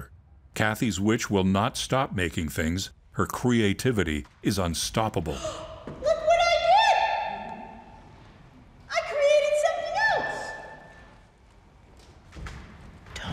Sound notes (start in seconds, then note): 5.3 gasp; 13.1 whispering